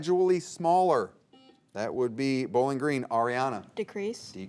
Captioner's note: buzzer beeps